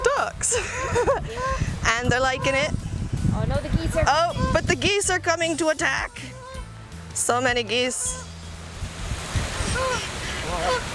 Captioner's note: laugh